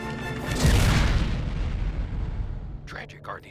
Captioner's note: explosion